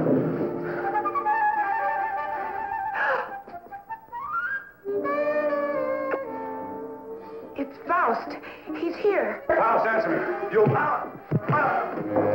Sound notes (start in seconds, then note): 2.9 gasp; 4.6 romantic music; 5.9 smooch; 10.6 thump